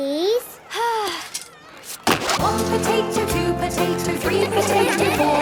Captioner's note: Belinda sighing; laughter